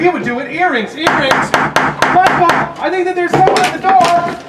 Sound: gavel bangs

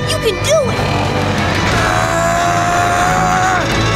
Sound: straining

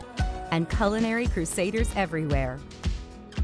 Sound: none

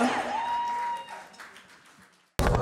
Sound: cheers

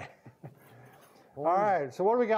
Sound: chuckles

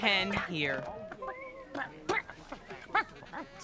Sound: clucks dismayingly

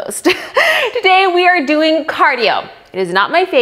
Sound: chuckles

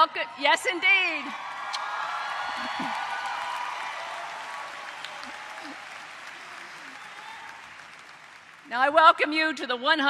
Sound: applause

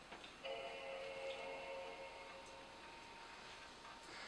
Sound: G4 cube chime

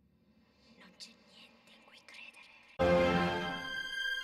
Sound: whispering voice speaking a European language

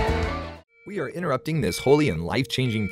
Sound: beeping alarm

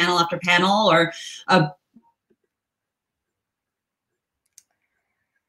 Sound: audio gets distorted

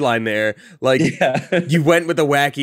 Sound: laughs

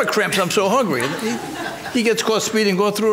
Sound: spectators laugh

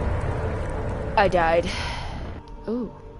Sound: sigh

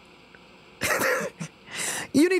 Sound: laughs

